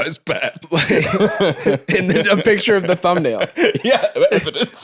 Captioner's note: laughing; laughs